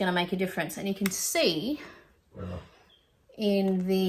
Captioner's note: burps in the background